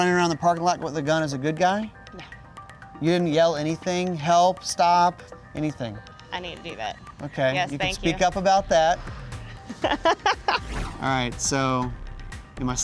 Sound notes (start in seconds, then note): 9.6 laughs